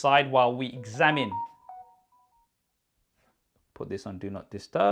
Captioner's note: phone notification chimes